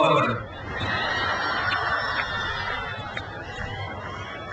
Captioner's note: speaks in foreign language; crowd cheers